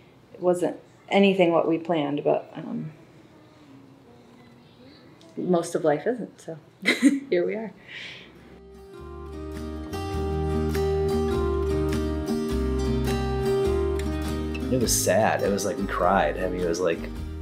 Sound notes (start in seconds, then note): 6.8 chuckles; 8.4 guitar music resumes